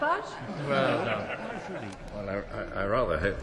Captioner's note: laughter